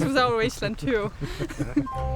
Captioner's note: laughs